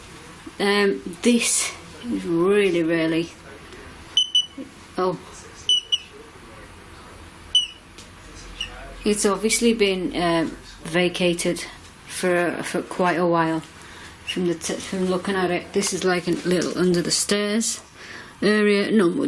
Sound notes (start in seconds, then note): 4.2 beeps twice; 5.9 beeps twice